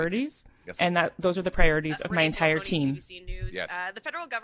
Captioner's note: speaking French